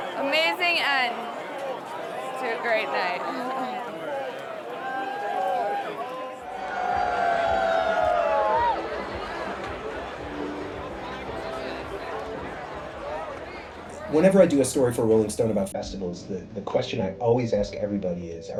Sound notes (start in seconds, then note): 4.2 group chattering